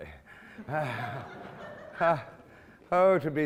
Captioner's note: laughing